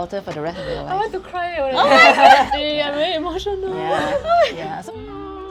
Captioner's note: blubbering